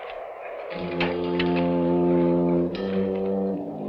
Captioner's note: rattling